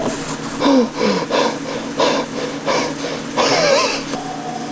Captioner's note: heavy Breathing